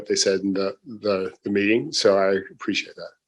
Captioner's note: laughs